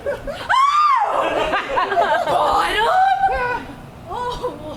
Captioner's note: screams